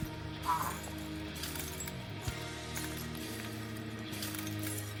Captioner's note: glass crunches